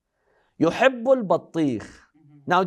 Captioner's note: Arabic